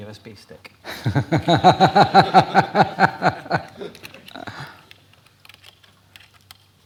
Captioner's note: laughter